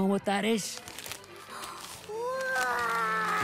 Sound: paper crinkles; gasps

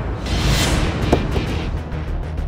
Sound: car door opens

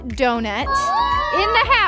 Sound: all cheering

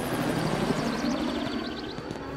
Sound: birds chirping

